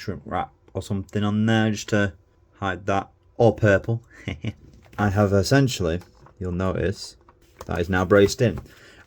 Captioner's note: heh heh